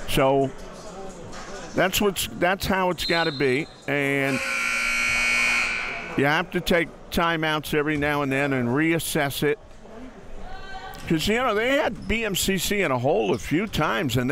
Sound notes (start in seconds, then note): 4.1 buzzer sounds